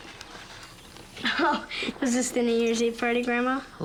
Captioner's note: laughing